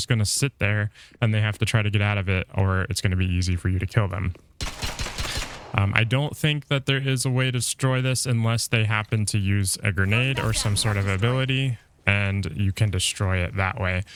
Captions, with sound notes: gonna sit there and they have to try to get out of it or it's gonna be easy for you to kill them. (gun firing) I don't think that there is a way to destroy this unless they happen to use a grenade or some sort of ability and you can destroy it that way.